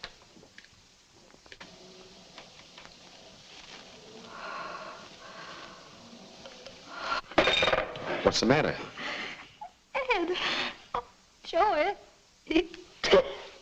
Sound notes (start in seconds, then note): 4.2 Martha shudders; 7.8 receiver clatters; 13.0 Martha crying